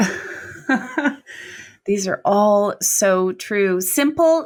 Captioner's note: laughs